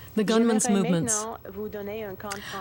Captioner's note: speaking French